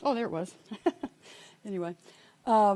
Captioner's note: laughing